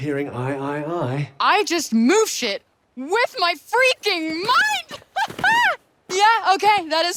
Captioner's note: laughs